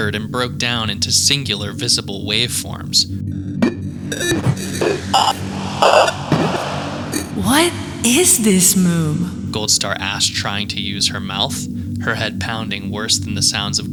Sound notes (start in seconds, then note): 3.8 ominous techno music; 3.9 static hissing and buzzing